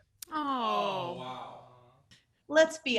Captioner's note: shocked sounds